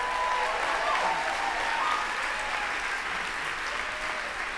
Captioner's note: applause